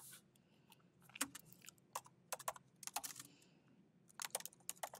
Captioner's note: keyboard clanking